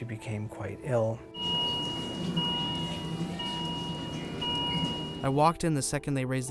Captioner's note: chaotic hospital sounds